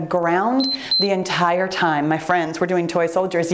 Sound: timer beeps

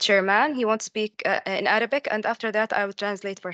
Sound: speaks in Arabic

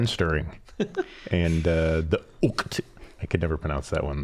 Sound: laughing

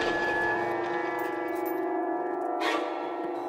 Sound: none

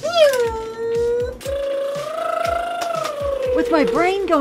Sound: car driving sounds

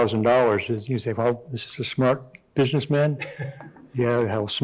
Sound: chuckling

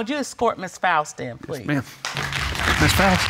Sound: audience applauding

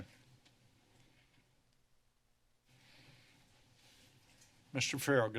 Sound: silence

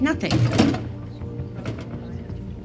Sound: waffle machine clanking

